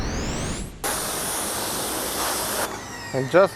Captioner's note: water swooshing; pressure washer stops humming